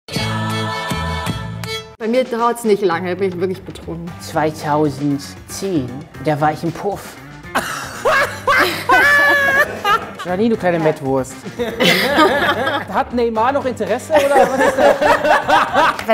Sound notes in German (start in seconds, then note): 0.1 Dynamische Musik; 7.6 Herzliches Lachen; 12.3 Lachen; 15.2 Lachen